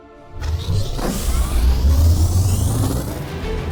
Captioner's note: engines start up